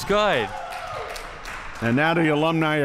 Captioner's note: crowd cheering